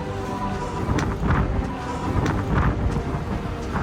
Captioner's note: wind rustling